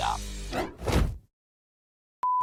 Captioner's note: logo swooshes; beeps